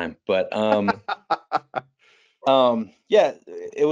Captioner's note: laughing